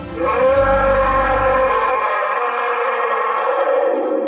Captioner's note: Bigfoot growling